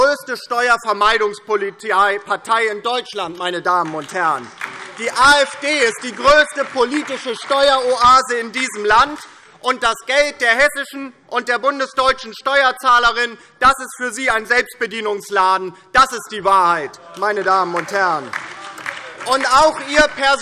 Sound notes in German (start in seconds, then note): 1.5 Beifall DIE LINKE, BÜNDNIS 90/DIE GRÜNEN und SPD; 17.6 Beifall DIE LINKE, BÜNDNIS 90/DIE GRÜNEN und SPD - Zurufe AfD